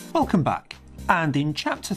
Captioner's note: voiceover